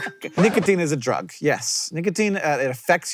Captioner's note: record scratch